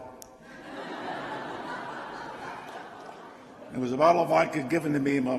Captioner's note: laughter